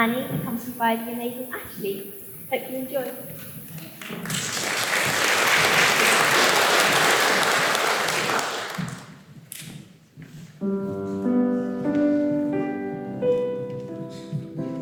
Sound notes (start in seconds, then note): 4.0 applause